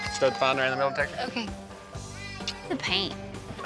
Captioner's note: kissing